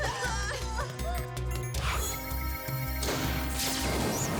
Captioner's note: coughing